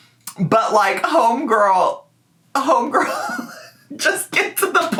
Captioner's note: laughs